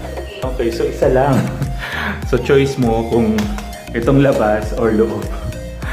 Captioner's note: laugh